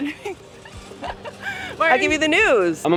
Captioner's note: laughs